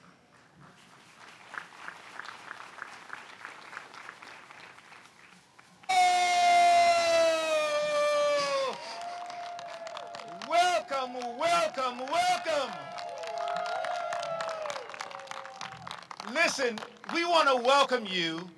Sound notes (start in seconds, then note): 0.7 applause